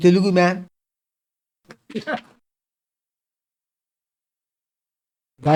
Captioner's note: claps